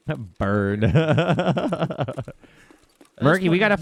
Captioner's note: laughs